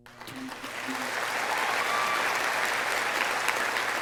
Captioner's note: audience applauding